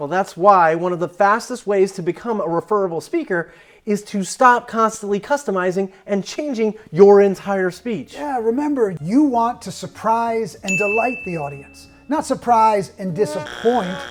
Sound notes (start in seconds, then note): 10.6 bell dings